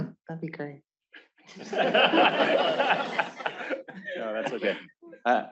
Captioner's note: laughter